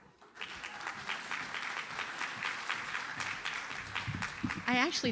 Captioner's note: audience applauds